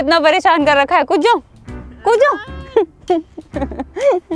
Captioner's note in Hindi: हँसना